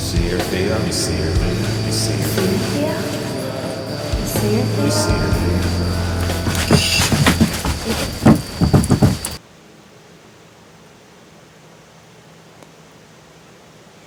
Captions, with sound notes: - [Echoing Voice 1] You see her, Theo? - [Echoing Voice 2] You see her, Theo? - [Echoing Voice 1] You see her, Theo? (body thumping) (ambience faintly humming)